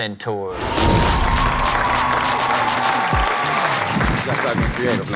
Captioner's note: audience cheers